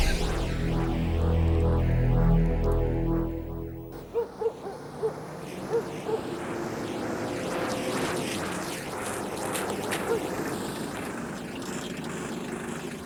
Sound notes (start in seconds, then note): 0.0 suspenseful music; 4.1 dog barking